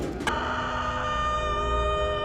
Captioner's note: distant wail